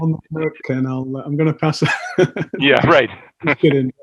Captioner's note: laughs